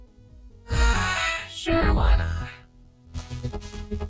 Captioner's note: sighs